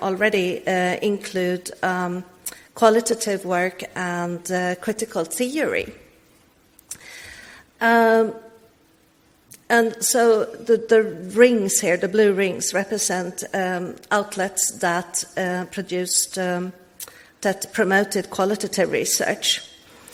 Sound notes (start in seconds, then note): none